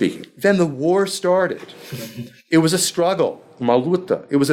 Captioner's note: speaking foreign language